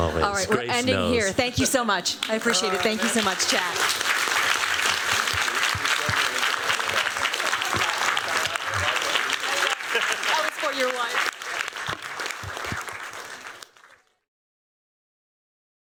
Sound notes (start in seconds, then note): 4.1 applause